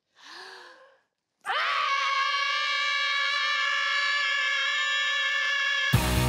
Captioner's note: inhales sharply; they all yell; theme music plays